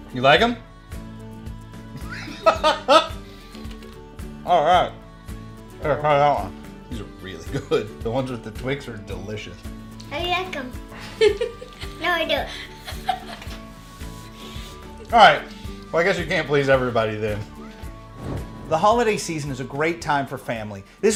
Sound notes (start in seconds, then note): 2.0 laughing; 10.9 giggling